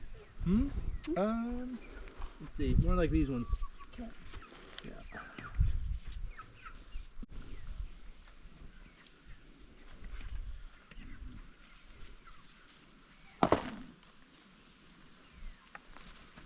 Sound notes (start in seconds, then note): 9.1 birds chirping